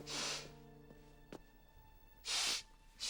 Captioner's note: sniffling